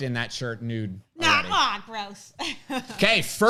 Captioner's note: laughs